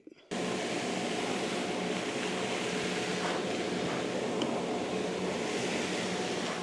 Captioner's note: sounds of vacuum